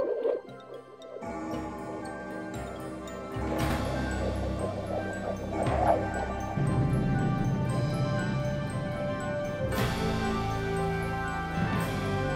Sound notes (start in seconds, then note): 0.0 instrumental music; 0.2 clock chiming; 6.6 rumbling; 9.3 instrumental music